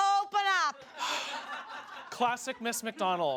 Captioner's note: audience laughs